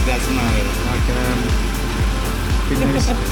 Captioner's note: speaking in foreign language; laughing